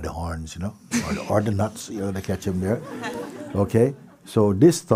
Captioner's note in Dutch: gelach